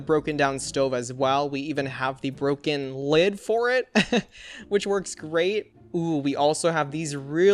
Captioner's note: laughs